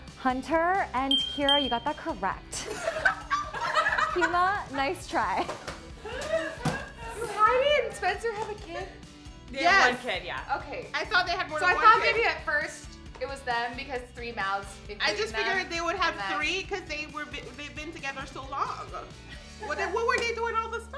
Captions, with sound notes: Hunter and Kira, you got that correct. (laughing) Keyma, nice try. - Do Heidi and Spencer have a kid? - Yes. - They have one kid, yeah. - I thought they had more than one kid. - So I thought maybe at first it was them because three mouths including them-- - I just figured they would have three because they've been together so long. Then, what were they doing all this time?